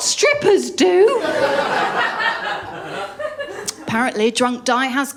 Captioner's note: laughter